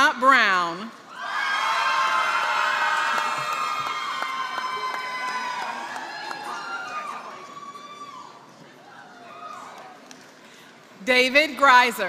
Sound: applause

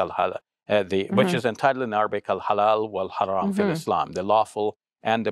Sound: speaks Arabic

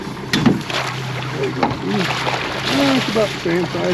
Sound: fish splashing

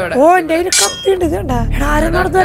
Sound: knife Sharpening sound

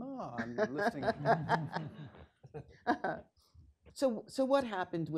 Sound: laughing

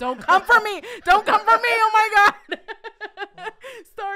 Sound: laughing

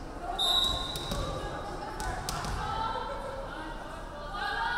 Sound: referee whistling

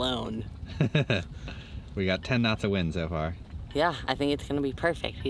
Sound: laughs

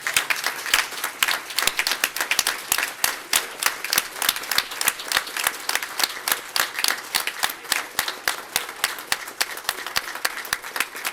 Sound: cheers and applause

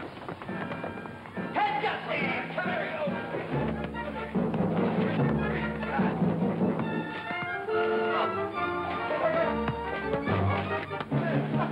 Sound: shouting

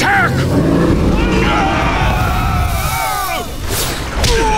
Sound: screaming, roaring; fighting grunts and impacts

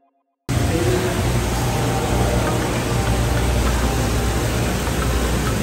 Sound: funky music; airy white noise rumbling

